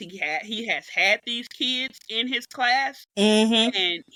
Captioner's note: none